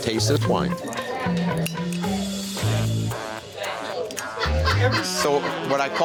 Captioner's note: chatter